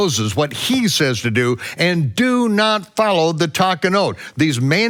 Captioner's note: speaks in foreign language